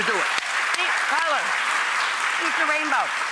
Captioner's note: audience applause